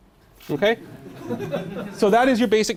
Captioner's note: laughing